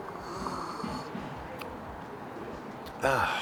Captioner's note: sipping